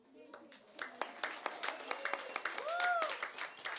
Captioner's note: applause